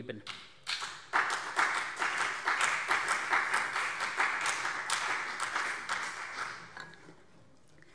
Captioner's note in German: Beifall CDU und BÜNDNIS 90/DIE GRÜNEN